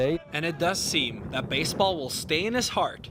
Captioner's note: voiceover